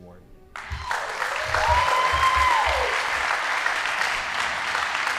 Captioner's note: audience applauding